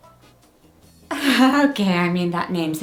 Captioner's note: chuckles